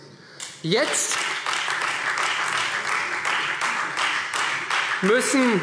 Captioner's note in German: Beifall Freie Demokraten und vereinzelt AfD